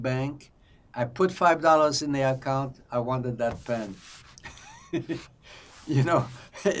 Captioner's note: laughing